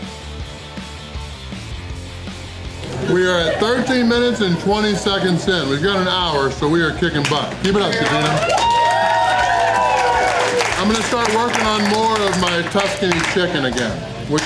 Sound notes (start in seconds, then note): 6.9 crowd cheering and applause